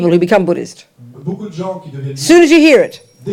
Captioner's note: French